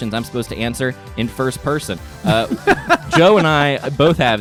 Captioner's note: laughing